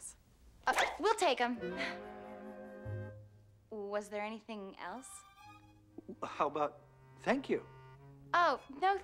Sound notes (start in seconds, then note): 2.3 whooinshg sound